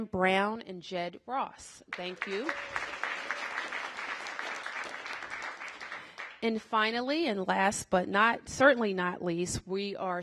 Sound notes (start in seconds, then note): 3.4 applause